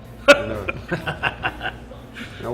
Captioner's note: laughing